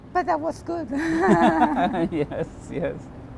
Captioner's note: laughter